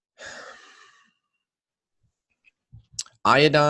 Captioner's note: sighs